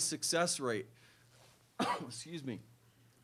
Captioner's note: cough